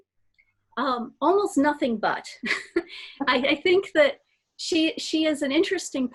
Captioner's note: laughs